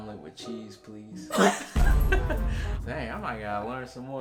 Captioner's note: laughing